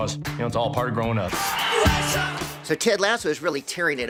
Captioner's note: referee blows whistle